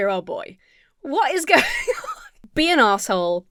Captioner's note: laughs